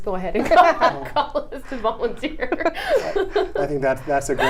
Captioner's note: laughs